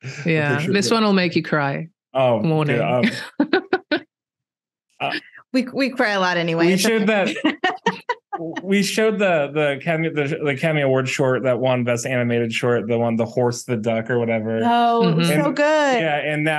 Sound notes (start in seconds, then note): 6.6 laughs